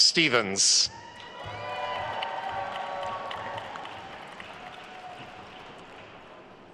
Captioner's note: attendees cheering and applauding